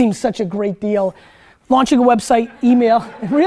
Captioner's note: students laugh